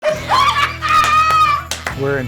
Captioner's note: laughing